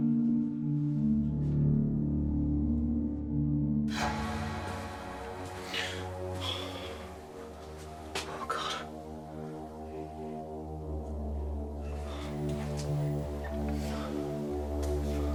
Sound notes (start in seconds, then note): 4.2 ominous music; 6.7 heavy breathing